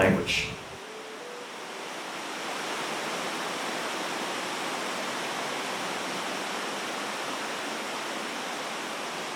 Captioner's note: rushing water sound